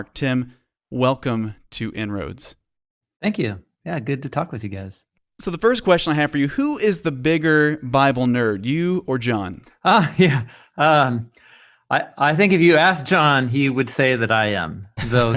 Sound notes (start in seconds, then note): 10.2 laughing